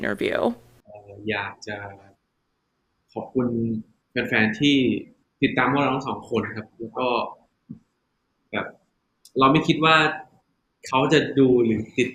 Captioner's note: answering in Thai